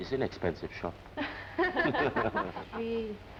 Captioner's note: laughing